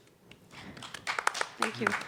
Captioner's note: panelists and audience applauding